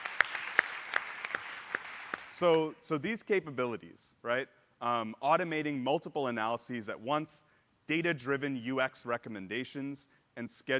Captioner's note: applause